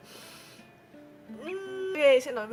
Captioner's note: inhales